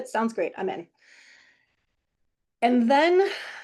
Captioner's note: none